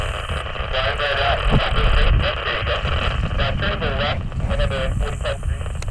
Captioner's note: interference drowns out radio